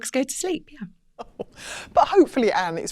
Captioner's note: laughs